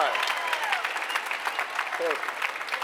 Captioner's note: applause